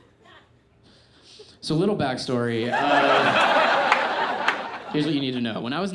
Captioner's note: audience laughs